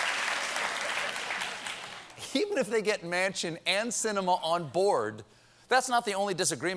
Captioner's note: applause